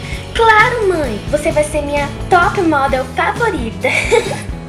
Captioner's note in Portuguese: risos